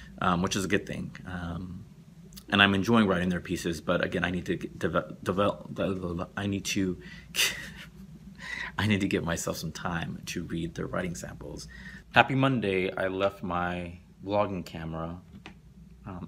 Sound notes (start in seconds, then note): 7.4 laughs